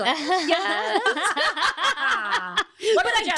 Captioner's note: laughing